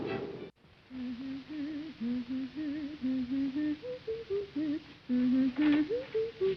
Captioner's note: hums schottische tune